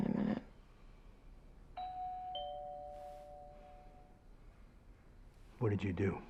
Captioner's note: doorbell rings